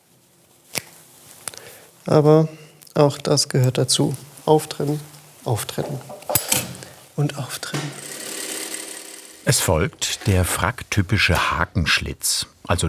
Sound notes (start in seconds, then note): 7.9 gentle whirring